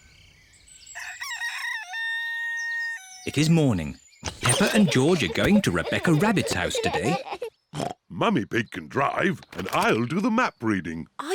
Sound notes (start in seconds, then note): 0.9 rooster crows; 7.6 snorts